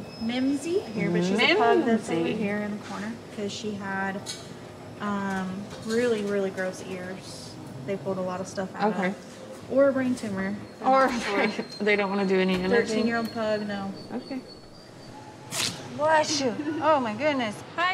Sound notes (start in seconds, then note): 15.4 dog sneezes